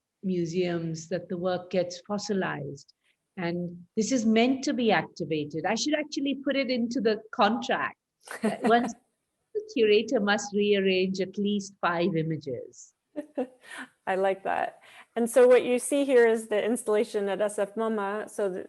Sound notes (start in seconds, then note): 8.4 laughs